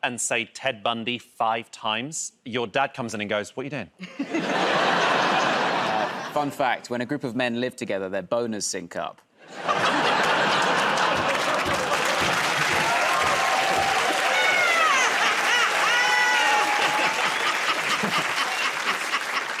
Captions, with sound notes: and say "Ted Bundy" five times, your dad comes in and goes, "What are you doing?" [ Laughter ] -Fun fact -- when a group of men live together, their boners sync up. [ Laughter ] [ Cheering and applause ] -[ Laughing ]